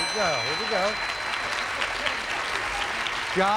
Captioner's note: audience applauding